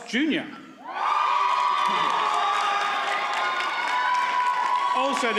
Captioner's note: audience cheers and applauds